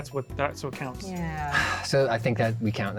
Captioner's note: sighs